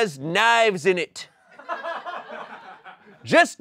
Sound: audience laughing

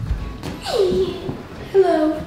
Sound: laughs

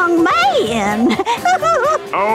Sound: swooning

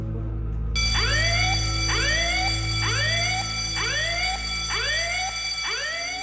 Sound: alarm ringing

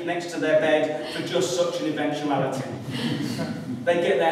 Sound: laughter

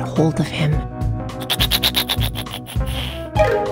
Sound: laughing

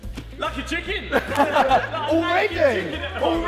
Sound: all laughing

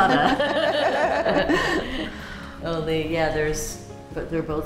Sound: laughter

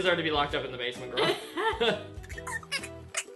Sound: laughs

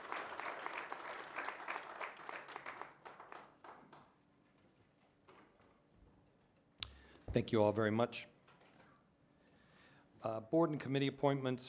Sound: applause

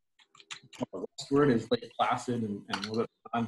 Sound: keyboard typing

